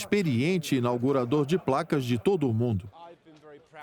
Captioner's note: audience laughing